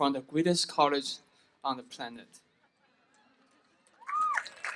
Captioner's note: applause